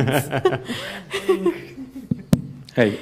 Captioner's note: laugh